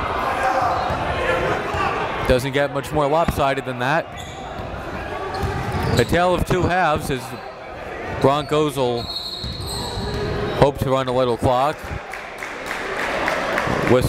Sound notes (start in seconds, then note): 9.0 whistle blows; 12.0 applauding